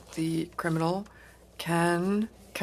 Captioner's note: speaking French